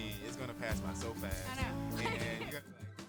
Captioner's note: laughs